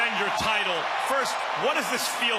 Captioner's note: crowd cheers